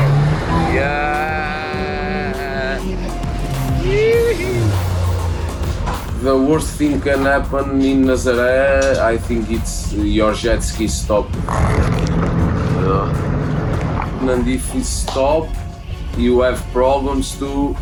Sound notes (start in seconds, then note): 11.4 motor cuts out